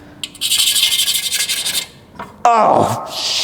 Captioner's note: scratching on metal